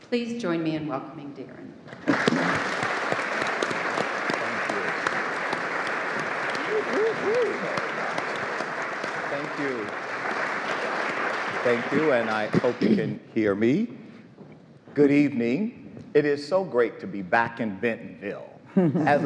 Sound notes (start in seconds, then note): 2.0 audience applauds; 7.0 panelists chatter